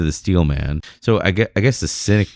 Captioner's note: uh